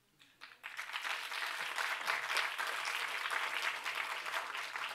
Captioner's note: applause